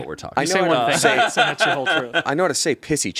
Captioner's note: laughs